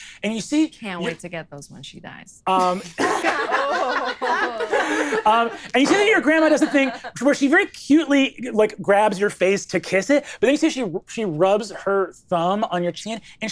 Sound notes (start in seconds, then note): 2.6 all laughing